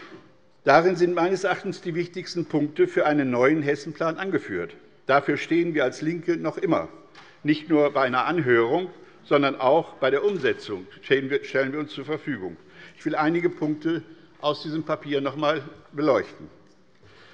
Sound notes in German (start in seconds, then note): none